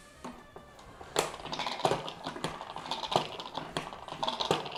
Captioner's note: spinning sound